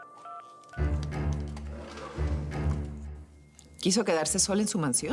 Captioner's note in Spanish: Ruido al marcar